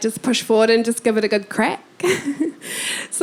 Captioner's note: chuckling